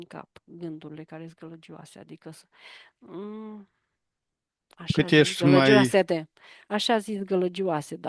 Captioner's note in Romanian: voce dreasă